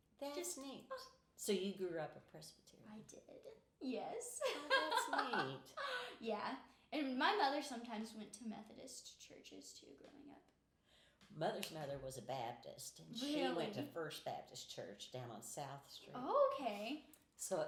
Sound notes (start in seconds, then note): 4.4 laughing